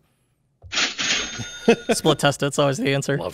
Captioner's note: cha-ching sound effect